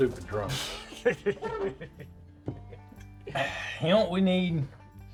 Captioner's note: Tully laughs